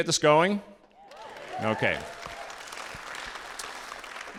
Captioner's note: audience applauding